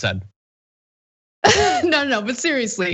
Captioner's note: laugh